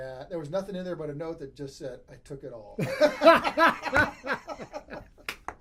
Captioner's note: laughs